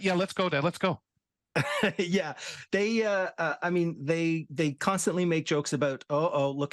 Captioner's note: laughs